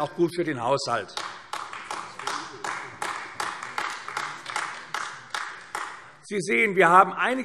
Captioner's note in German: Beifall AfD